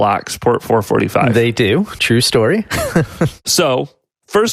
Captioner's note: laughs